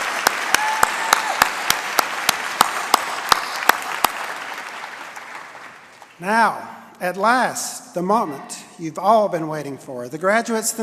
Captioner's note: applause and cheering